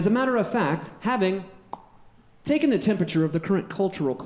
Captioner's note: pops